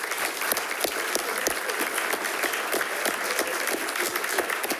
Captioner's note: attendees clapping